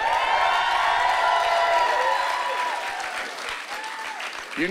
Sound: cheering

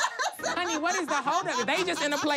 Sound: laughs

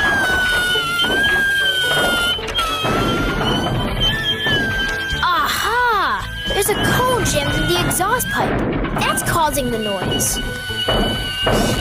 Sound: same Awful Screeching Noise

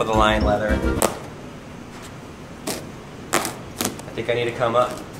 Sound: material ripping

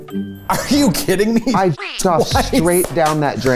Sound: laughs

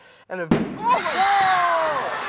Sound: trash can popping

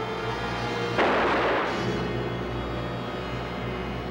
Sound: gun shot

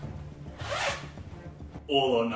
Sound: suspenseful music; zipper zips

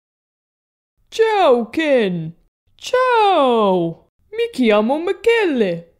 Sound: none

